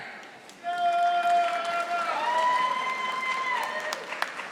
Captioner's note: audience applauding